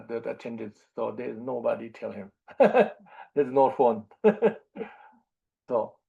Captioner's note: laughs